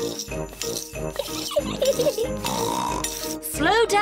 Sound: giggles and snorts

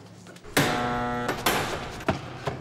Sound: buzzer

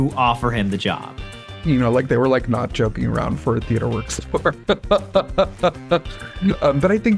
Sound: laughs

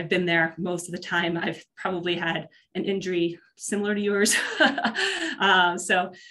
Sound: laughs

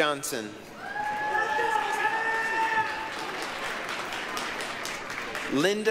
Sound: applause, cheering

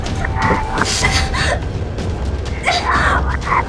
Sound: demonic laughter; gasping; whispering

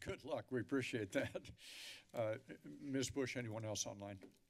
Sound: chuckles

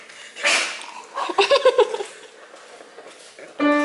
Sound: laughs at nothing

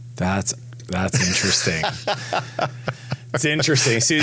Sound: laughs

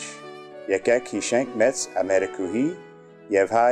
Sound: armenian

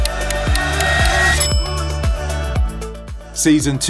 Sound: timer ticking; bell dings

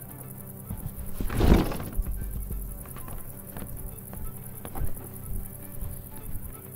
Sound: insects chirping; objects clattering; box thuds

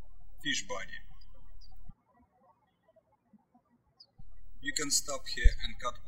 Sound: birds chirping

